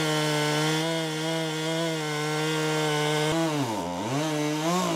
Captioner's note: saw whirring